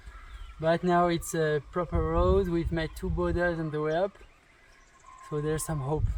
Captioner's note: motorbikes